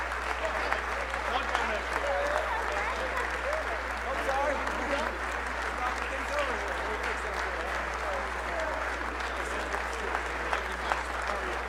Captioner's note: applause